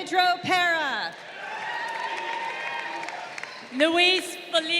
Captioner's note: crowd cheering